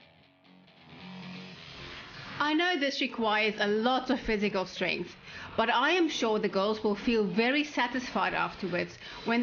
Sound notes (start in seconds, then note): 2.4 narrating